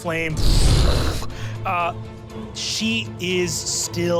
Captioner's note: fire whooshing